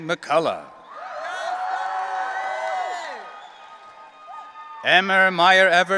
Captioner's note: audience cheering